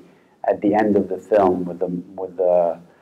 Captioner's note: foreign language